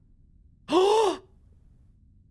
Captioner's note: gasps